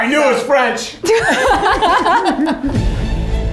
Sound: all laughing; suspenseful music

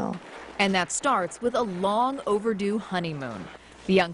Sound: voiceover

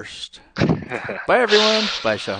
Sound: laughs

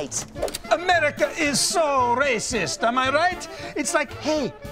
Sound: Russian accent

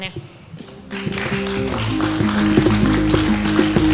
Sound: applause

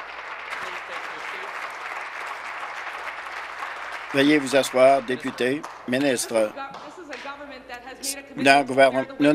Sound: applause

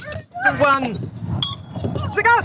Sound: timer beeps

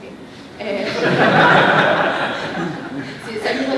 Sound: laughter

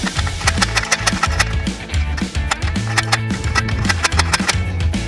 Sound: upbeat music; clicking noise

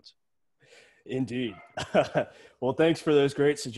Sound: laughs

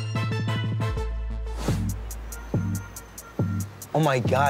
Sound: whooshing

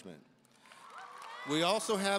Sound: audience cheering and applauding

